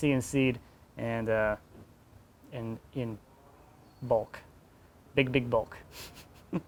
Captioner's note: laughs